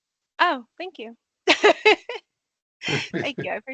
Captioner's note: laughing